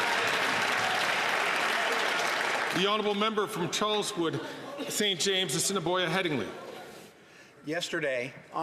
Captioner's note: some Applause